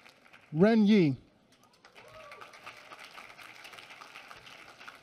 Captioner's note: applause